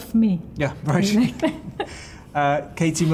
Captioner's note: both chuckle